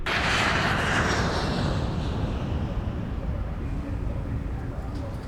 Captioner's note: airplane engine roaring